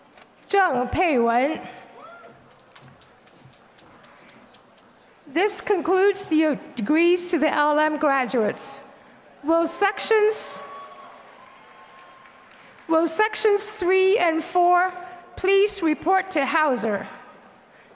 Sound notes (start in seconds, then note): 0.0 applause